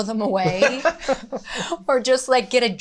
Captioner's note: both laughing